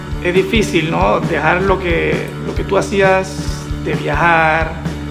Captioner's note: speaking Spanish